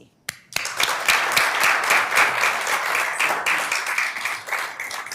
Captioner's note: audience applauding